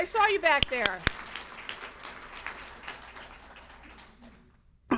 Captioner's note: audience applauds